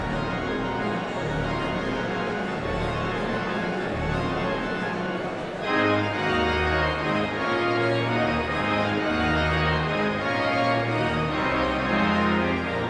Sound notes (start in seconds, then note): 5.7 audience chatter continues; 5.7 pipe organ music continues